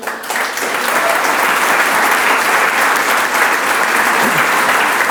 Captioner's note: audience applauds